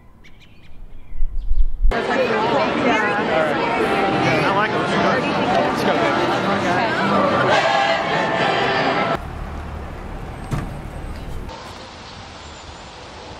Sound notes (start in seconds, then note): 0.0 birds chirping; 1.9 people talking; 8.9 engines revving; 11.6 birds chirping and soft wind